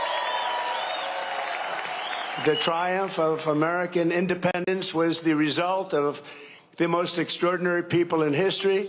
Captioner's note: cheering and applause